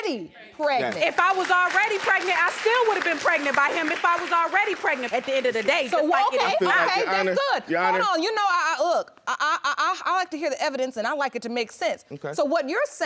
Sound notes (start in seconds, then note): 8.4 stammers